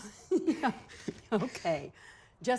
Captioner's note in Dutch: giechelt